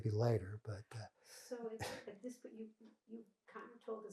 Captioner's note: laughing